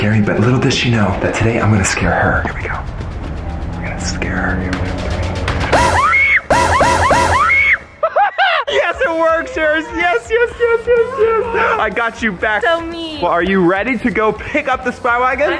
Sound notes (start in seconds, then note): 6.6 cousin screaming